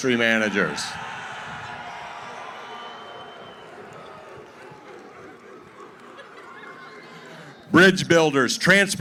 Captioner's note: cheering & hooting